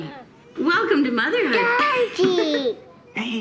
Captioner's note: laughing